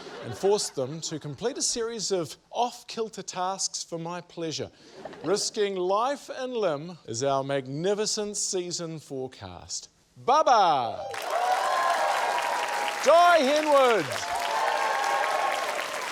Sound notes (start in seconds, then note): 5.1 chuckles; 11.0 cheering, applause